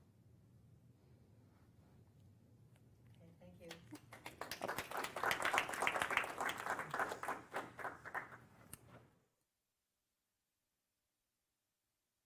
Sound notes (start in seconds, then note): 3.6 applause